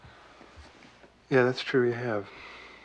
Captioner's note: sighs